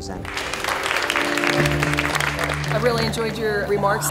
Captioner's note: crowd applauding